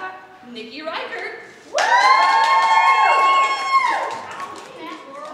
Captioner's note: audience cheers